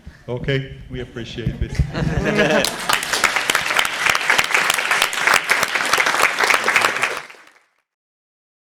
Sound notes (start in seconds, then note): 1.7 chuckles; 2.5 applause